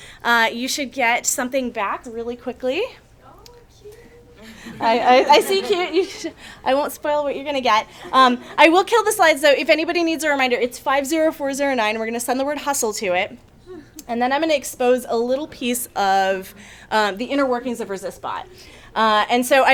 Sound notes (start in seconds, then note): 4.4 audience chuckles